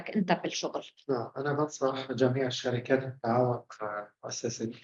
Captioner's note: speaking arabic